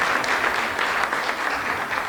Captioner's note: applause